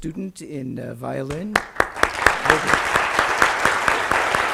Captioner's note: applause